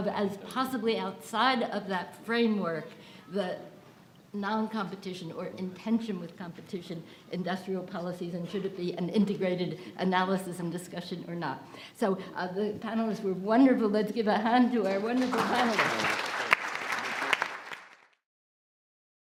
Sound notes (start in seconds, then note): 15.0 applause